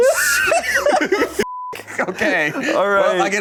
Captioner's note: beep